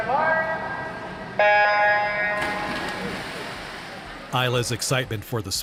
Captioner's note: starting horn blares